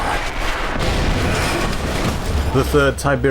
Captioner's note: explosion